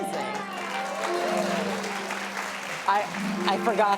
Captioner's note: applause; magical music